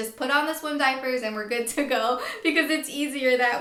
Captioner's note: laughs